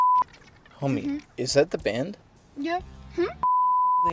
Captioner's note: beep